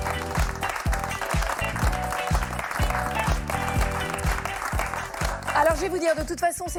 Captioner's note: applause